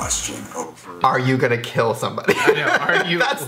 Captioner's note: laughs